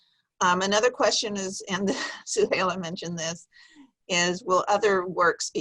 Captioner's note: chuckles